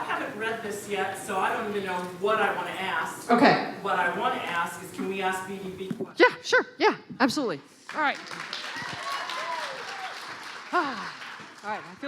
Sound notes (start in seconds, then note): 7.8 clapping